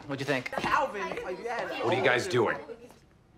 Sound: group chatter; chatter stops

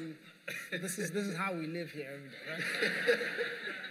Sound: laughter

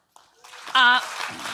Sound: audience applauding

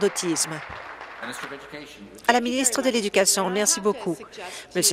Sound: applause

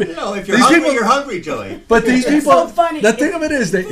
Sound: voiceover

